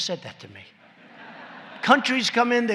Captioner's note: laughter